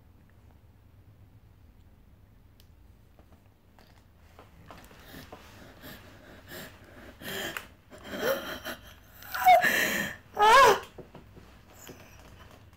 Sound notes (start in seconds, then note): 4.9 woman pants; 9.5 woman groans